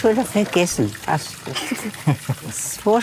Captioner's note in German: Leises Lachen